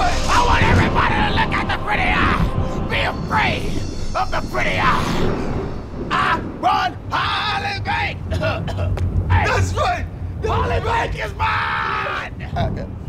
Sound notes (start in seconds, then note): 8.2 coughs